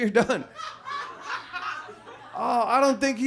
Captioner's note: audience laughs